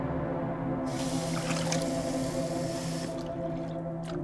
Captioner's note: water splashing